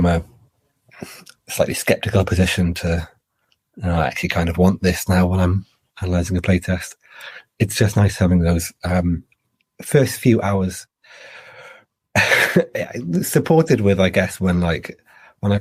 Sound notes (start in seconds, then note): 11.8 laughs